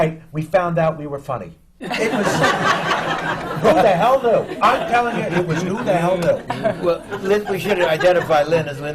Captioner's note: laughter